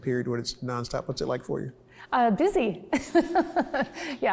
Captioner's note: laughs